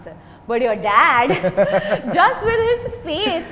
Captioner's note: laughs